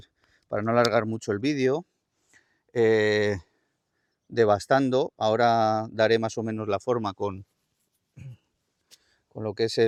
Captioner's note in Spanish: carraspeo